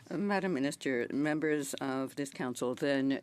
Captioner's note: speaking French